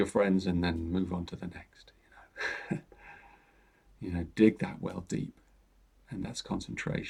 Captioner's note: chuckles